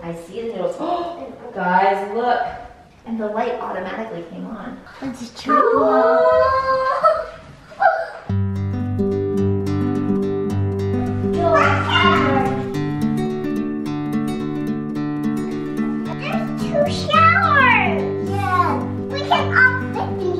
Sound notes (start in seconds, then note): 9.0 twangy music; 11.3 children exclaim